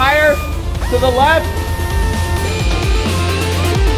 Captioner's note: power tool whirring; intriguing techno upbeat music